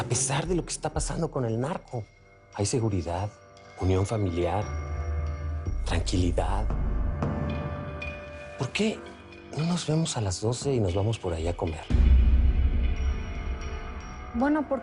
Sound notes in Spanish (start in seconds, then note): none